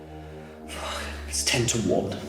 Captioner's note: man sighs